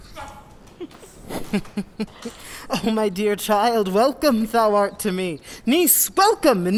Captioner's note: laughs